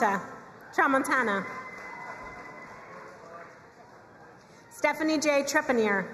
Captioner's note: crowd cheering and applauding